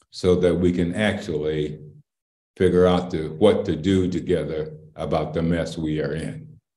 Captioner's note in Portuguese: none